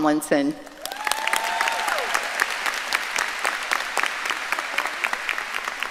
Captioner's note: audience cheering and applauding